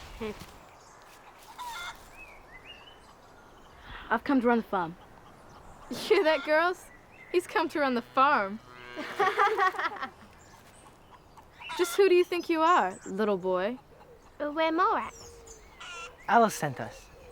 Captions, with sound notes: - I've come to run the farm. - You hear that, girls? He's come to run the farm. (laughing) Just who do you think you are, little boy? - We're Mallrats. - Alice sent us.